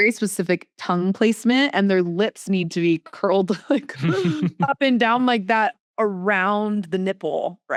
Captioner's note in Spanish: risas